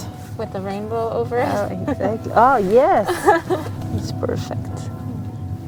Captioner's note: church bells still ringing